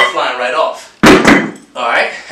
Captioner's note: plate tumbles